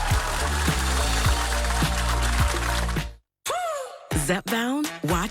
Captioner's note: applause